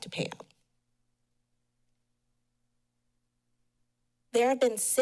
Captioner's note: pause